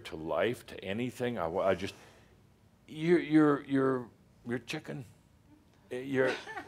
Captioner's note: a few chuckles